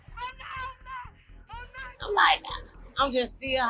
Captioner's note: woman screaming